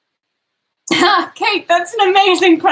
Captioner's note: laughs